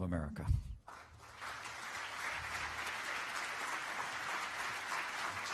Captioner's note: applause